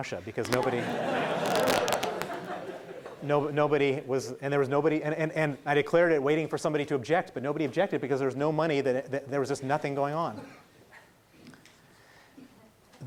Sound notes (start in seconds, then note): 3.5 laughing